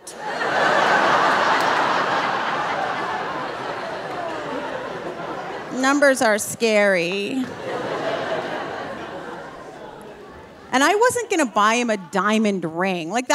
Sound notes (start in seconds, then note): 0.3 audience laughing; 7.7 audience laughing